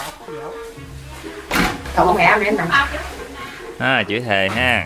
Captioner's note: swearing